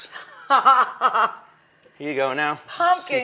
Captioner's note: laughs